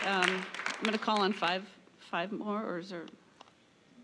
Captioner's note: applause